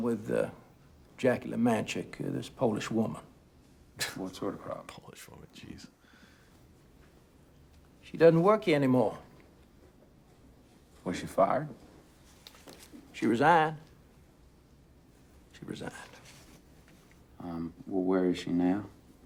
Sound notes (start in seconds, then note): none